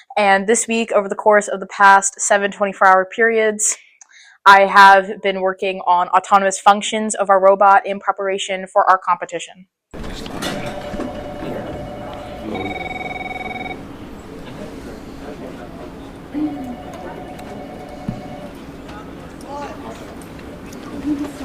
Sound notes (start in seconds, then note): 10.0 office Sounds